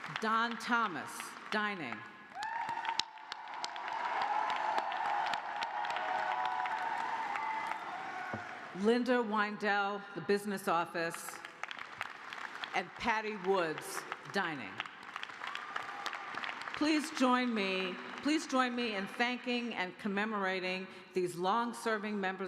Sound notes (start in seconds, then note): 0.0 applause; 8.8 cheers and applause; 11.6 applause; 16.0 applause